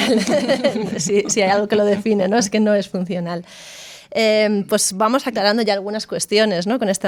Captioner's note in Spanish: risas